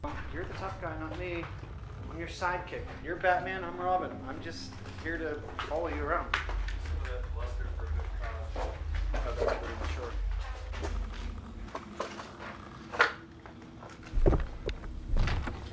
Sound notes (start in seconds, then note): 7.6 distant chatter